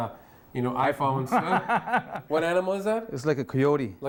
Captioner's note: laughs